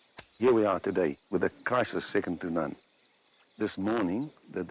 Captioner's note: none